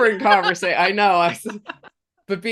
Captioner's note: laughing